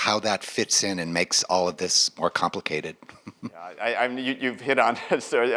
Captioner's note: laughs